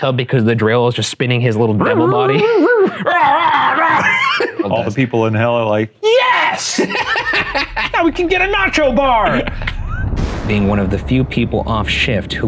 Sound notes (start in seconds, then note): 2.0 laughing; 3.3 roaring; 6.4 laughing